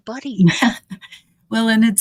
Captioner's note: chuckling